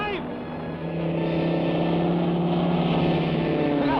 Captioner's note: engine buzzes